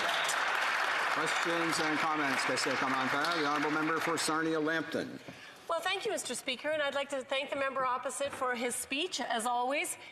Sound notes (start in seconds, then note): 1.7 applause